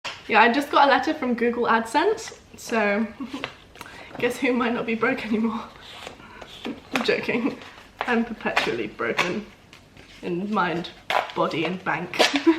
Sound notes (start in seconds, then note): 3.1 chuckles